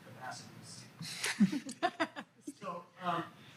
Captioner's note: laugh